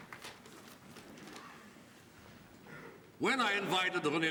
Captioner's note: none